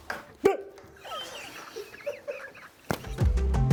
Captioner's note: laughing; upbeat music